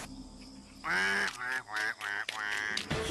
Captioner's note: continues Quacking